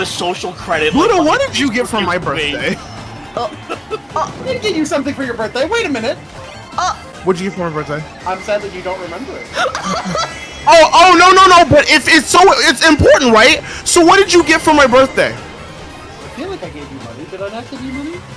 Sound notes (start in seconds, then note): 9.5 wheezing from giggling